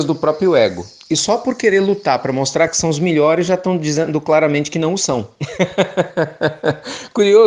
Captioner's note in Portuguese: risos